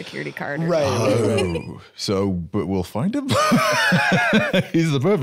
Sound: laughs

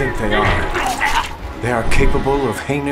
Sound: pizza delivery man groaning

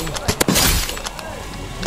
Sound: gunshot firing

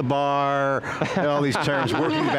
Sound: laughter

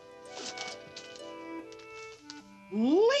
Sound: light music; paper rustles

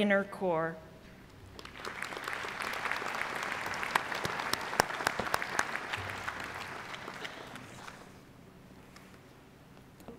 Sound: applause

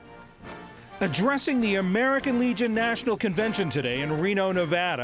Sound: voice-over

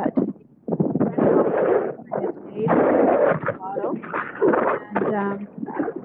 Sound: loud wind noise

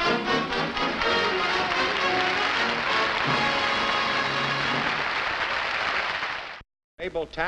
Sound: applause

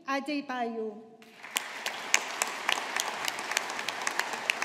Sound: audience applauding

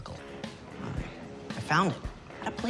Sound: whispers

